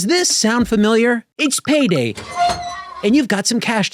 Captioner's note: vault door creaks